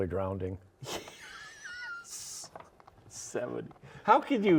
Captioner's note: laughs